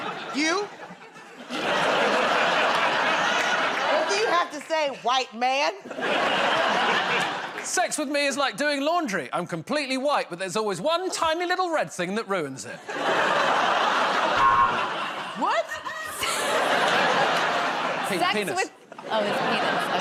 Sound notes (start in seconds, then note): 0.0 laughter; 5.8 laughter; 14.4 buzzer